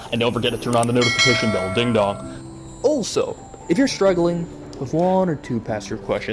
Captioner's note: ding dong